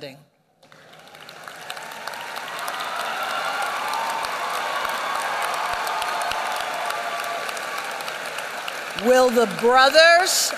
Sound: applause

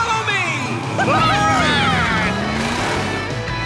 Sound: cheering

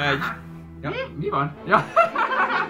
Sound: laugh

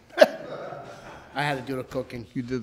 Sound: crowd laughs

